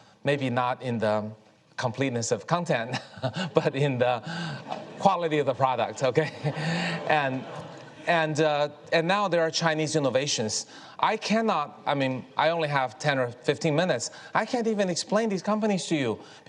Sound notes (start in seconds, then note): 2.8 Kai-Fu chuckles